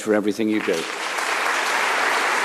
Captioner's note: applause